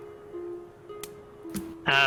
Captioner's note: fire crackles